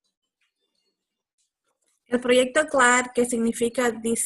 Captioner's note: speaking Spanish